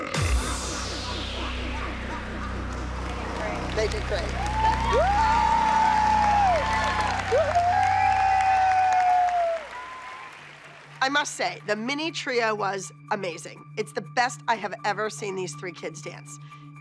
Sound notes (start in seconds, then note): 0.1 song ends; 5.8 applause, cheering, whooping